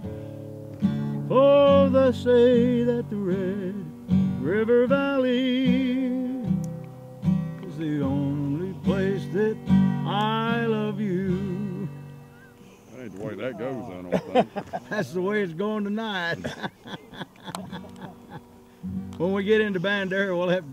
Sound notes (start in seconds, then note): 16.2 laughs